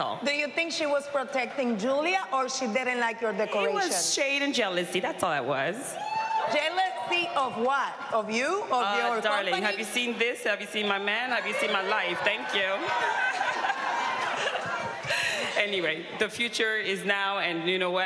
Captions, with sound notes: Do you think she was protecting Julia or she didn't like your decoration? It was shade and jealousy, that's all it was. Jealousy of what? Of you? Of your company? Darling, have you seen this? Have you seen my man? Have you seen my life? Thank you. [laughing] Anyway, the future is now. And you know what?